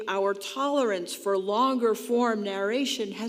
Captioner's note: none